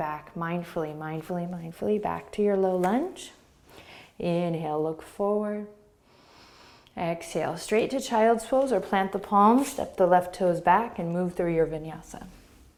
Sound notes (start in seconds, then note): 5.7 inhaling